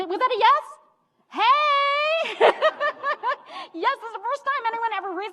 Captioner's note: laughs